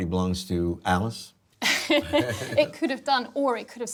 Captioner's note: laughter